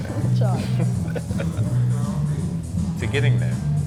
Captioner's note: laughs